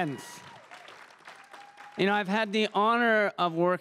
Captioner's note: crowd cheering and applauding